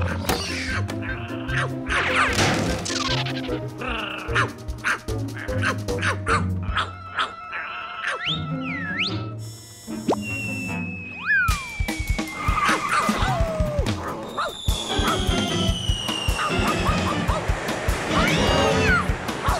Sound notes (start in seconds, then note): 6.7 barking; 8.2 whistles